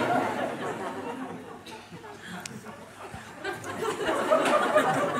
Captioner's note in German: Lachen